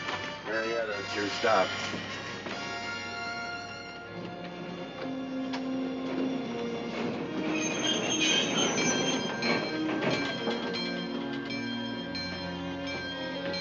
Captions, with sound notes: Marietta, that's your stop. ( brakes screech ) ( bell ringing )